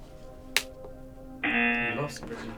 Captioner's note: klaxon blares; lid cracks